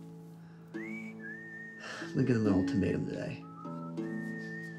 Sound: sighs

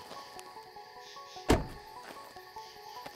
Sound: closes car door

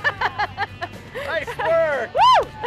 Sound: laughs

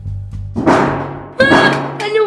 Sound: thumping

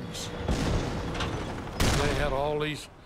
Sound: cannon shots exploding

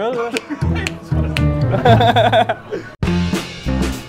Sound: laughs

